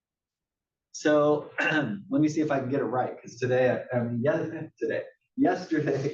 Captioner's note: cough